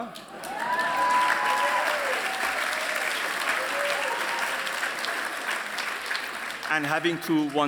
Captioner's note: applause